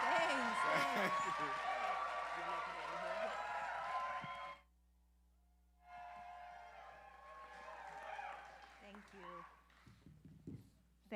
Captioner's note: cheering